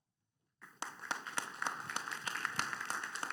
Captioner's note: applause